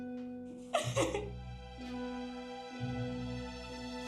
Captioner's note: crying; soft dramatic music